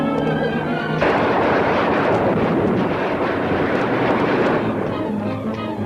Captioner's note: gunshots ringing out; tense music continues